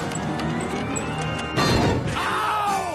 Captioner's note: ship powers up; bang